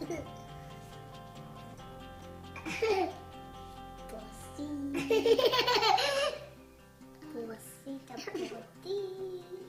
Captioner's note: giggling